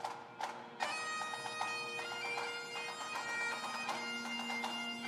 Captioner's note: none